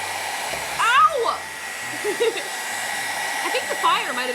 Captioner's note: laughs